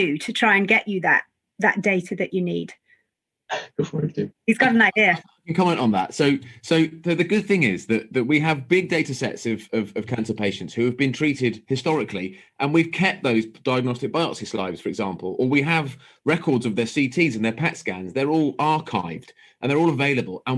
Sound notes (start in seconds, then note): 3.6 chuckles